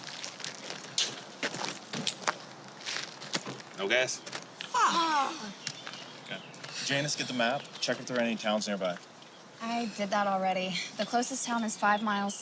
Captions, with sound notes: - No gas. (group exclaims) - Janice, get the map, check if there are any towns nearby. - I did that already. The closest town is five miles south